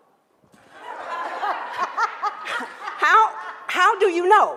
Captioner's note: laughs